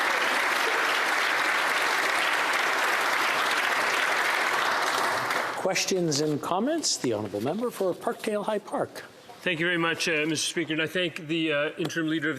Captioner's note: applause